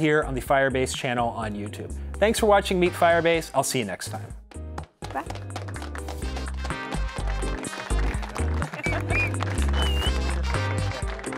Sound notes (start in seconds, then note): 5.1 applause